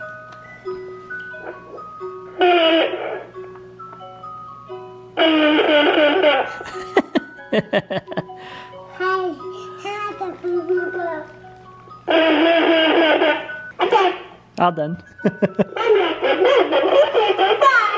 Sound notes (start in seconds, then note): 0.0 music chiming; 2.4 microphone feedback; 6.3 laughing; 9.4 babbling